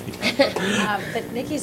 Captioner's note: laughter